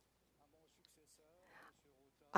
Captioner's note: speaking French